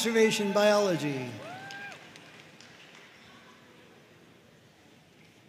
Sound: audience cheering and applauding

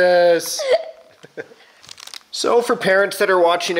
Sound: laughs

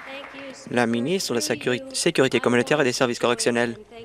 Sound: applause

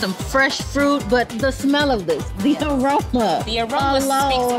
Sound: laughing happily

